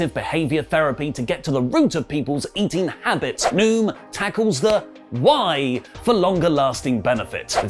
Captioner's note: head slap